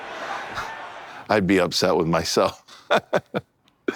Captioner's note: laughs